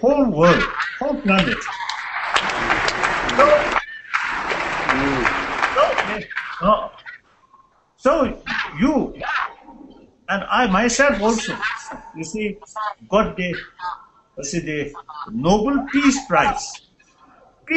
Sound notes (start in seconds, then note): 1.6 applause